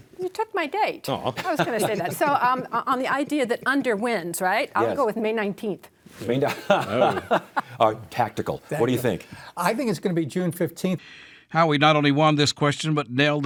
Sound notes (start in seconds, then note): 6.4 panelists laughing